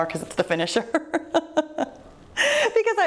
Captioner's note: laughs